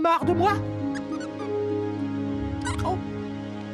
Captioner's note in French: grincement